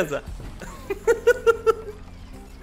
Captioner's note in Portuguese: risos